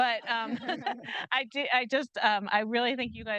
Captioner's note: group laughing